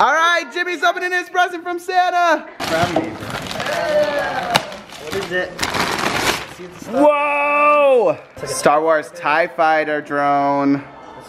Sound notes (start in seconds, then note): 2.6 paper crinkling